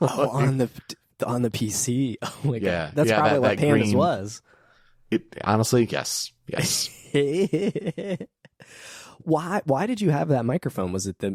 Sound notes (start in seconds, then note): 6.6 laughing